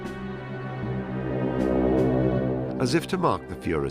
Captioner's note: airplane engines whirring